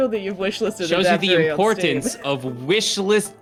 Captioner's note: chuckles